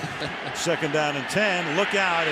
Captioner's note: laughs